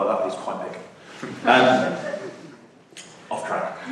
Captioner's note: laughter